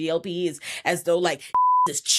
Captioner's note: beep